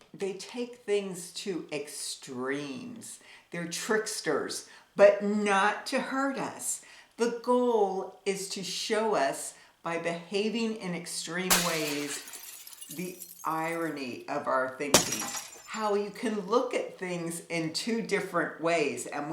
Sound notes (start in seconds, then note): 11.4 glass shattering